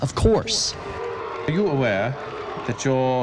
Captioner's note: crowd booing